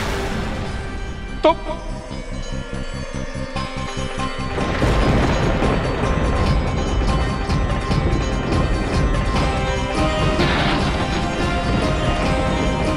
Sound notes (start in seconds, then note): 4.5 thundering